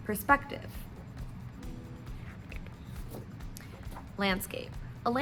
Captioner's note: page flip